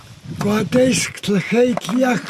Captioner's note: speaking in Tlingit Native American